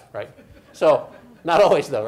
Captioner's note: audience chuckles